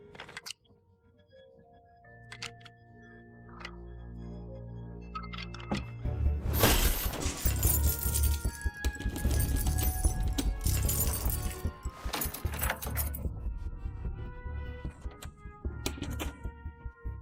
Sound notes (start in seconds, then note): 6.6 keys jingling; 8.6 curious music plays